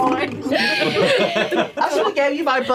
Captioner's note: laughter